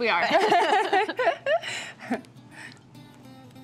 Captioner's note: laughs